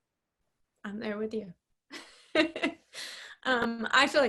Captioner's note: laughs